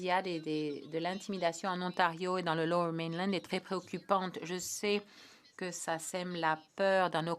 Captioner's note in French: voix de l'interprète